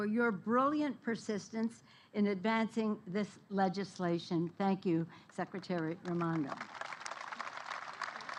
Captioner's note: applause